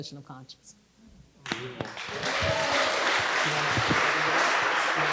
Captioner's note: audience applauding